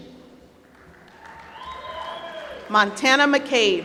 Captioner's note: applause